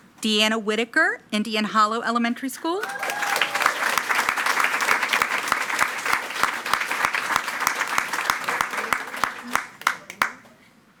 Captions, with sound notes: - Deanna Whitaker, Indian Hollow Elementary School. (attendees cheering and clapping)